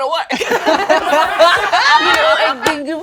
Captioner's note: all laugh